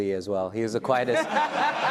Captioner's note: laughs loudly